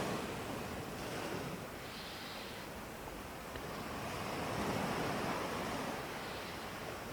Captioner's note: breathing in and out through the nose